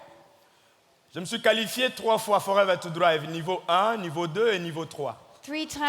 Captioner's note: speaking in French